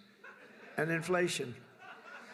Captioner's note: laughter